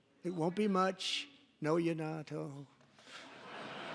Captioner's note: laughter